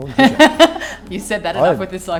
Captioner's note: laughs